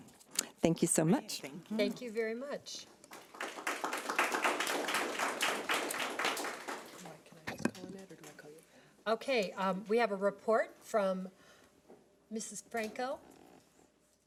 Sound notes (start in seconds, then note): 3.0 audience clapping; 7.6 woman whispering